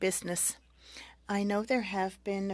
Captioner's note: speaking French